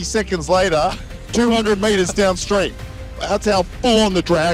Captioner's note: Alan laughs